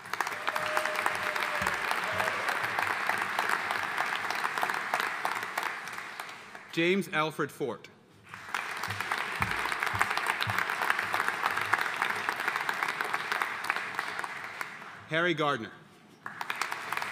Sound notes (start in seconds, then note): 0.0 audience cheering and applauding; 8.2 audience applauding; 16.2 audience applauding